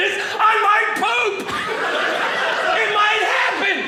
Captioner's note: audience laughing